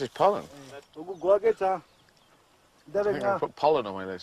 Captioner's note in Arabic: بالثرثرة بلغة أجنبية